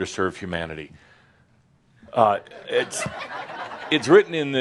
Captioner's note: some chuckles